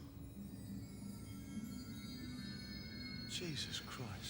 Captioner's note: chime sounds